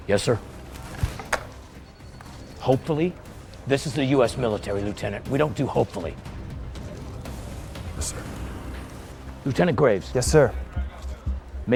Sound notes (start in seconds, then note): 0.9 phone clacking